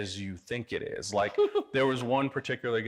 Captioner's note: chuckling